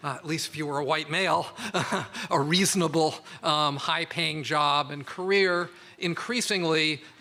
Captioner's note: laughs